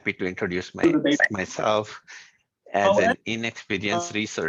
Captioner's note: random noise from an unmuted microphone